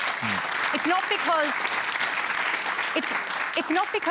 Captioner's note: applause